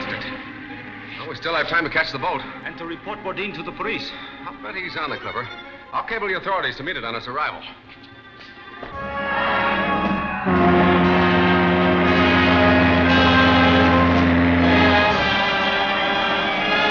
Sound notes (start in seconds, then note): 8.9 horn blaring; 10.9 celebratory music